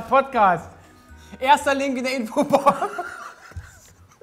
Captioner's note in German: Lachen